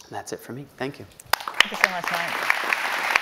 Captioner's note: audience applauding